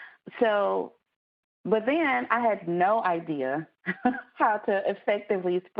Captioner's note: laughs